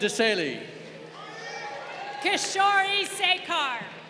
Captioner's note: crowd cheering